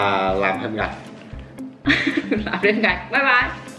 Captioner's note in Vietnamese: cười